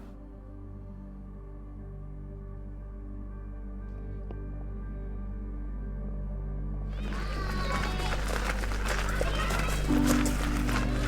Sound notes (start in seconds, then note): 0.0 pensive minimal music continues; 6.9 children clamoring